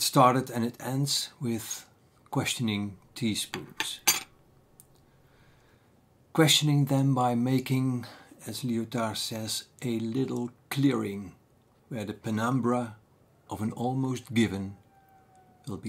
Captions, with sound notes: It started and it ends with questioning teaspoons. [clinking teaspoon] Questioning them by making, as Lyotard says, - “A little clearing where the penumbra of an almost given -